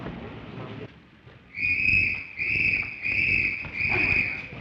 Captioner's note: blowing whistle